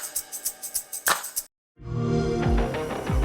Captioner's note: xbox sound; intense music